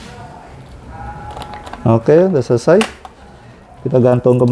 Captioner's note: closing infused tube noise